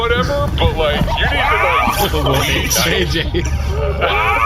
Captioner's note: muffled shriek of laughter